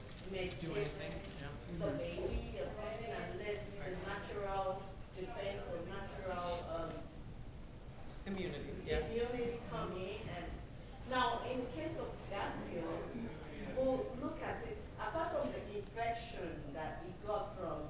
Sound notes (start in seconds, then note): none